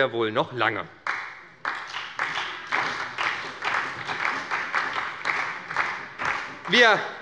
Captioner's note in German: Beifall bei der SPD